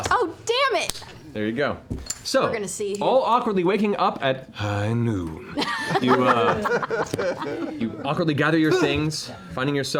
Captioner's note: McCree voice